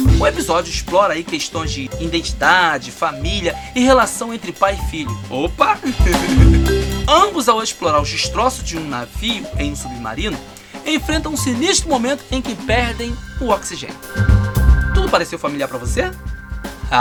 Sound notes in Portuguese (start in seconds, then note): 5.8 risos